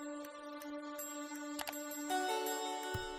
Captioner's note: mouse clicking sound; typing sounds